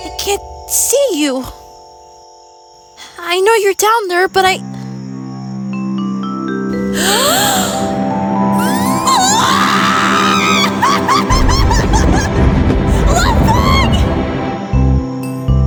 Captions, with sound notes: I-I can't see you I know you're down there but I- (loud gasp) (gasp, screaming, ground rumbling) Lovebug!